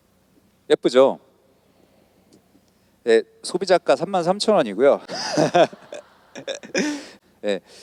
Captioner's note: audience laughs